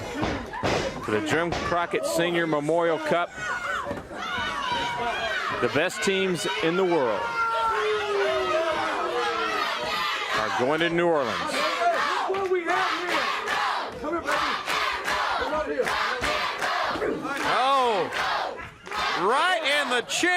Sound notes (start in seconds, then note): 2.9 crowd chatter; 6.9 crowd chatter; 12.4 crowd cheering